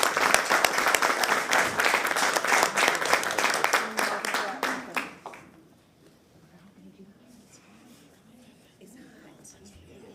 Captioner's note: applause